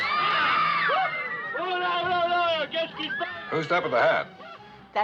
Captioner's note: screaming